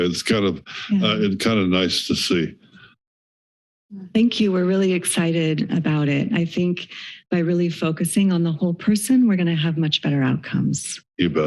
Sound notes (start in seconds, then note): 2.9 silence